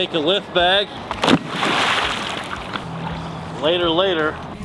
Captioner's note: water splashing